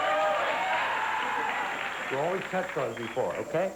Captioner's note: applause